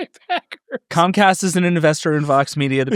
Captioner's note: laughing